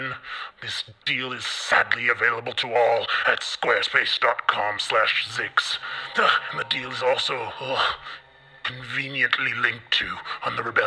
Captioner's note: disgusted noise